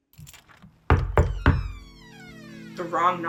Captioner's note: knocking on the door